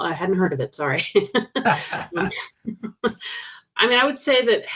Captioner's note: chuckling